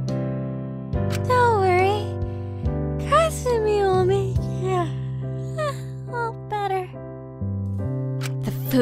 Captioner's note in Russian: зевок